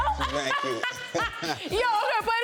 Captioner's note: Young Ezee laughs